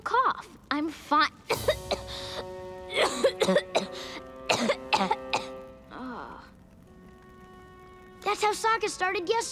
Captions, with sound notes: I'm fi- [coughing] [groaning] That's how Sokka started yesterday.